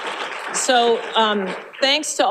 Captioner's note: applause